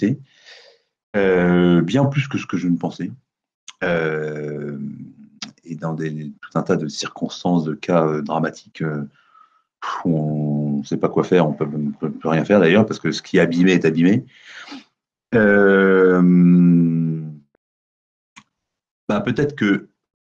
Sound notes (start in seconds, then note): 9.1 sharp sigh